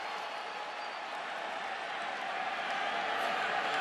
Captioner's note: crowd cheering